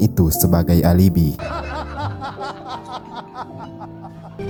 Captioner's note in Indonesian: tertawa